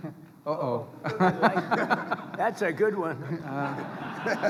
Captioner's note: laughter